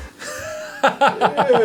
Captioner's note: laugh